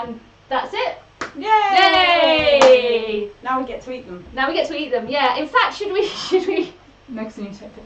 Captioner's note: they cheer